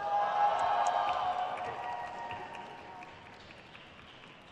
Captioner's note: crowd cheers